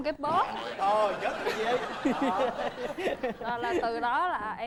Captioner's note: laughing